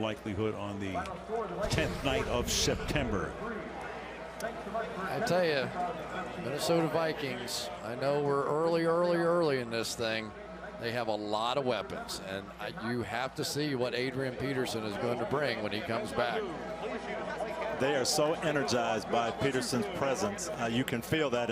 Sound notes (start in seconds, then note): 3.8 pa announcement